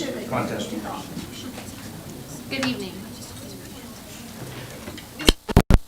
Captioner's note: crowd talking indistinctly